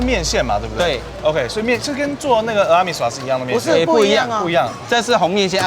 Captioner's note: man speaking foreign language